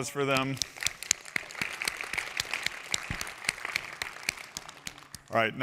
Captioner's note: applause